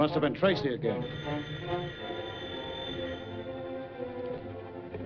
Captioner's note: phone ringing